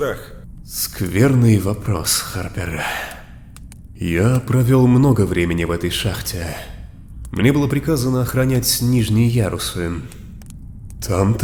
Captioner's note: sigh